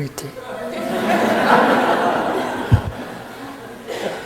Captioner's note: audience laughing